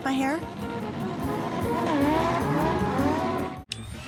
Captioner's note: engines revving